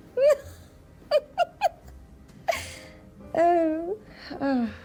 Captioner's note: Diana laughing